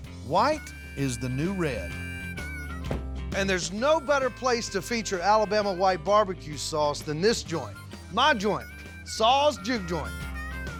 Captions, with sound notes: WHITE IS THE NEW RED. [DOOR CLOSES] AND THERE'S NO BETTER PLACE TO FEATURE ALABAMA WHITE BARBECUE SAUCE THAN THIS JOINT... MY JOINT... SAW'S JUKE JOINT!